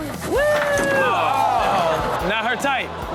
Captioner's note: audience exclaims